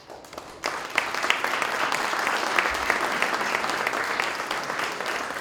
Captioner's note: applause